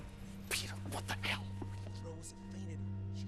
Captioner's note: whispering